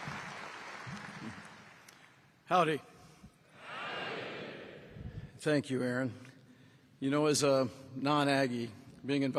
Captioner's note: applause